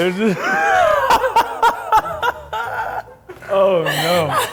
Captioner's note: laughs